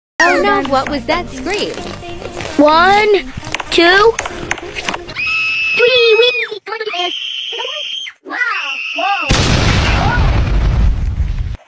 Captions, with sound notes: 1, 2, (someone screaming) 3, WEEEEEEE! Come on Cookie Fans- (BANG NOISE) Woah, woah,